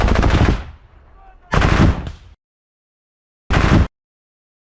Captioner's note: BMP firing at "Predator"